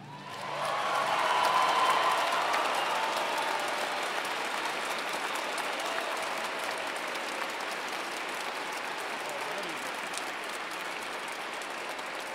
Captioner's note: applause